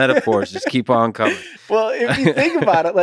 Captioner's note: Lex laughs